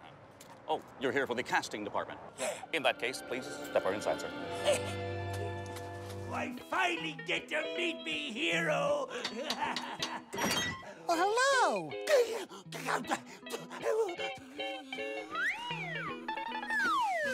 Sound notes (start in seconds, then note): 11.8 stammering